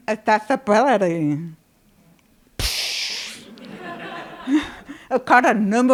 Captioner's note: laughter